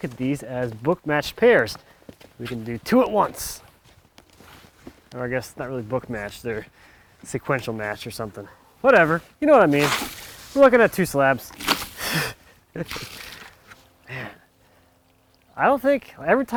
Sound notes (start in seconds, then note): 9.5 water sloshes; 11.8 laughs; 12.8 water sploshes